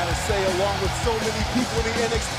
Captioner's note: cheers and applause